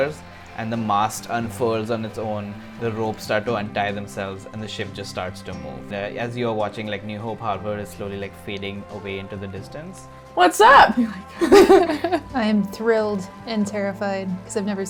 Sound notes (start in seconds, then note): 10.9 laughs; 11.3 laughs nervously